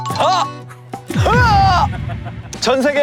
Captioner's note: The scream of the Jeongwaja